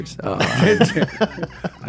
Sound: laughing

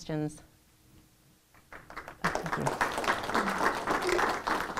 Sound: applause

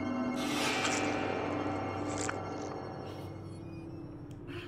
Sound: squelching Sound

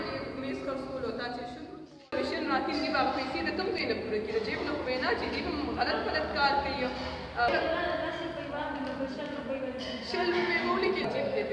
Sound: speaking in foreign language

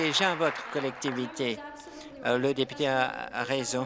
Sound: applause

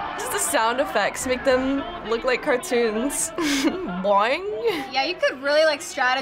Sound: laughs; chuckles

